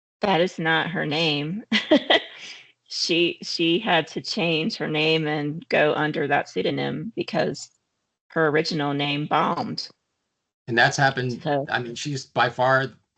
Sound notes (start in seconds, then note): 1.7 laughing; 10.7 chuckling